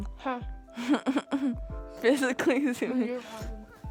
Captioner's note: laughs